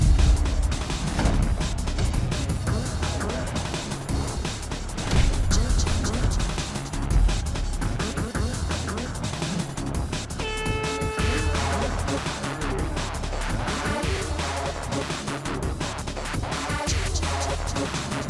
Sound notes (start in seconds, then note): 10.3 horn blows